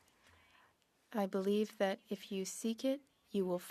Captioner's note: speaking French